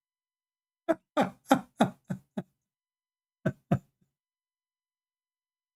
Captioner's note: Ketawa